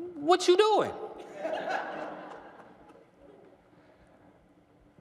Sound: laughter

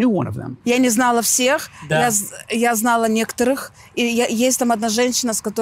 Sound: speaking in foreign language

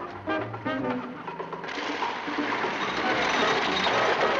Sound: engine rumbling

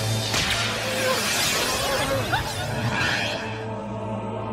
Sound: whimpering

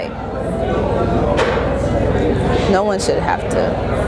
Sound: indistinct conversations

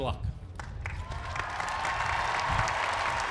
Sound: applause

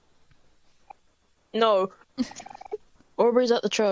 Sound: laugh

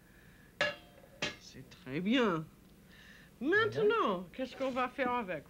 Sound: speaking French

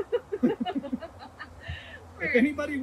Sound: laughter

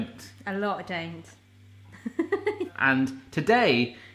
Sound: laughs

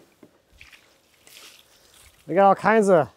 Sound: water splashes

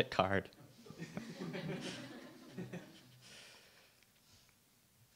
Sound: audience laughs

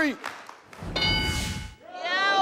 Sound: bell chiming

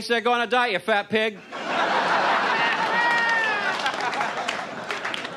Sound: audience laughs

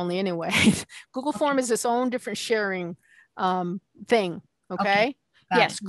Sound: giggling

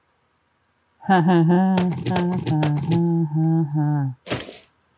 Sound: laughs

